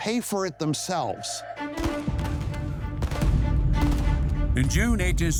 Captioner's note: intense music; cannons booming